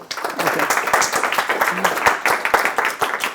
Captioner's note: clapping